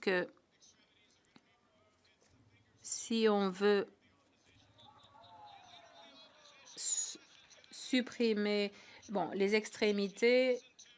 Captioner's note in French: voix de l'interprète